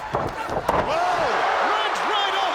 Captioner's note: crowd roaring